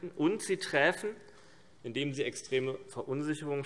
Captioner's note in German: none